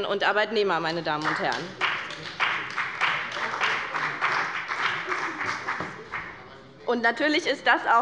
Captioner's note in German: Beifall bei BÜNDNIS 90/DIE GRÜNEN sowie bei Abgeordneten der CDU